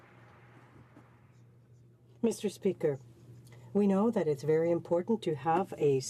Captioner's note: some Applause